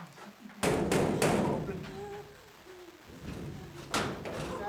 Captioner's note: door banging